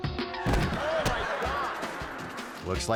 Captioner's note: suspenseful music; crashing